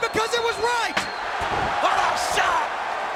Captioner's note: audience cheering; chair thuds